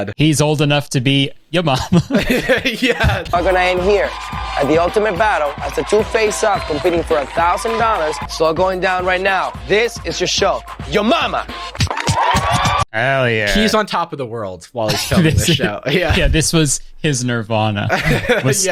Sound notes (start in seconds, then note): 1.8 pair laughs